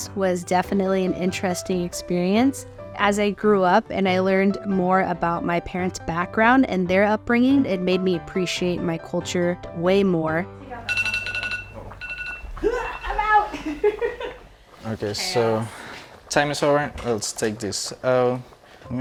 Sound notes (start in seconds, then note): 10.8 phone alarm chimes; 12.6 laughs